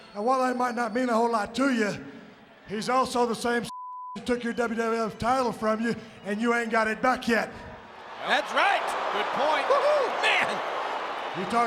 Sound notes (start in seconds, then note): 3.7 beep